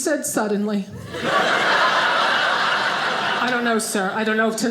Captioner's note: audience laughing